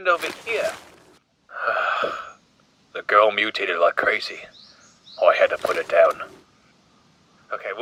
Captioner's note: sigh